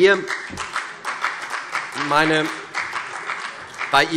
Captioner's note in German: Beifall CDU